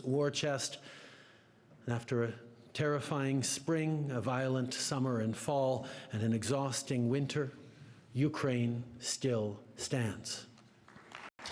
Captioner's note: applause; speaking French